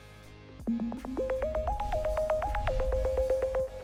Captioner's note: beeping tones